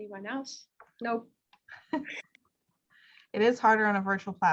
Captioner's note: chuckles